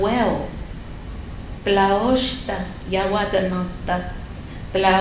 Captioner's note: non-english speech